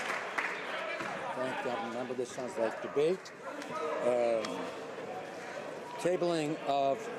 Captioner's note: some Applause